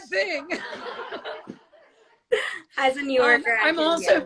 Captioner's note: all laugh